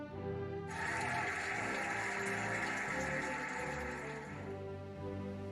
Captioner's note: cheering and applauding